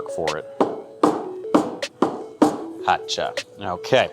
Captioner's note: cup tapping